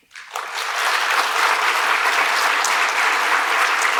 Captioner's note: applause